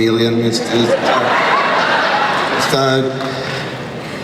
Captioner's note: crowd laughs